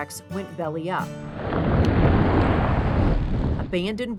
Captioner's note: car whooshing